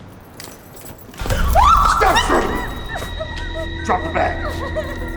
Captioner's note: Candace screams